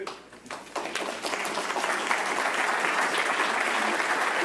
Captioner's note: audience clapping